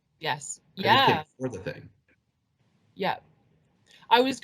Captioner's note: speaking faintly